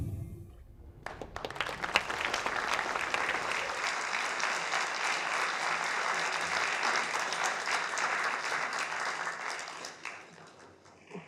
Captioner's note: applause